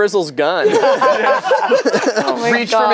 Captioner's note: group laughs